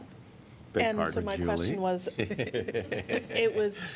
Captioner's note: laughter